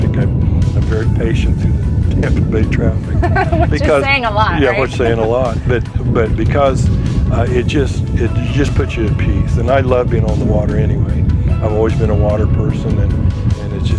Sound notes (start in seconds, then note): 3.0 laughs